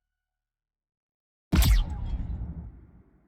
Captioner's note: explosion